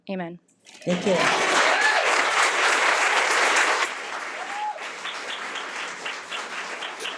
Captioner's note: audience clapping